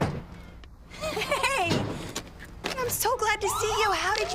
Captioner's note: police car sirens